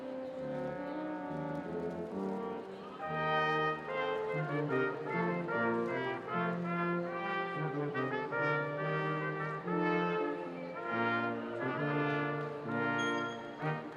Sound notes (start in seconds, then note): none